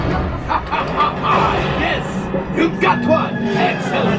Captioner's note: Hondo laughing